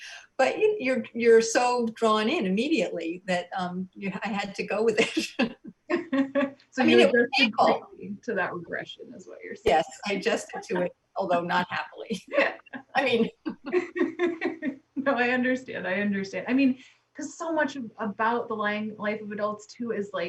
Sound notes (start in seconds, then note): 5.0 loud laughs; 5.0 overlapping chatter; 12.1 loud laughs; 15.0 loud laughs